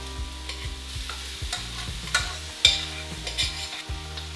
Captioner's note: clicking against a metal pan